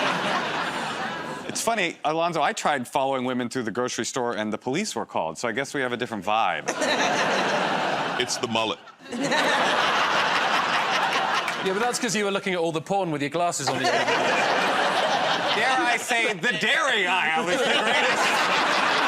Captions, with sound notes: -It's funny. Alonzo, I tried following women through the grocery store, and the police were called. So I guess we have a different vibe. -It's the mullet. [ Laughter ] -Yeah, but that's because you were looking at all the porn with your glasses on the end of your nose. -Dare I say the dairy aisle is the greatest...